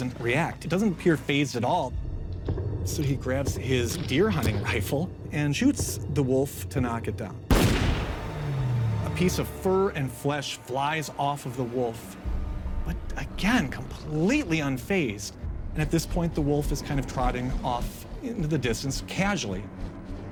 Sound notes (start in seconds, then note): 7.5 gunshot